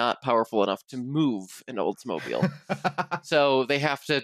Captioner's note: laughs